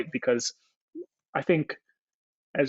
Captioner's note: none